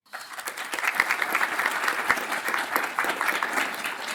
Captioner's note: audience applauds